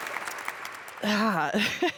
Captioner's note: audience applauds